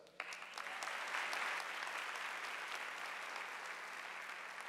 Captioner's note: audience applauding